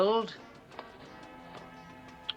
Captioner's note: click